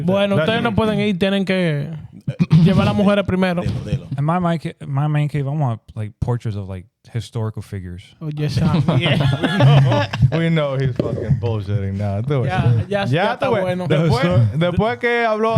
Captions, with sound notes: (Speaking In Foreign Language) Am I my main cave? I want like portraits of like historical figures. Oh, yes, I am. (Laughing) We know he's fucking bullshitting now. (Speaking In Foreign Language)